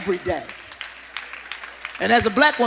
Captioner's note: audience applauding